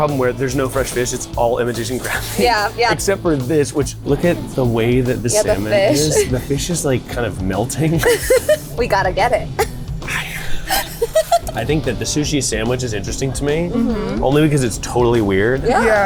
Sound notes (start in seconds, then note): 7.8 chuckles